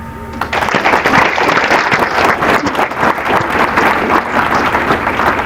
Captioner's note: applause